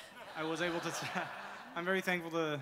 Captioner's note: audience laughter; laughing